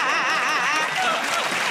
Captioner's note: laughter and applause